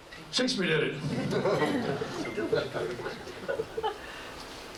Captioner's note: laughter